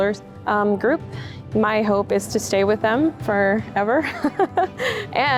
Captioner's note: chuckles